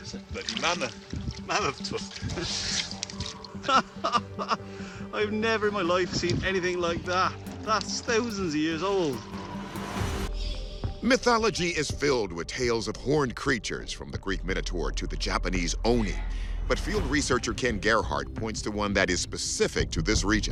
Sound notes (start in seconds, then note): 3.6 laughing